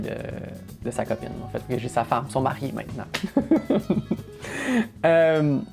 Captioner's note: laughs